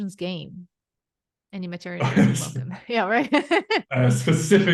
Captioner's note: laughs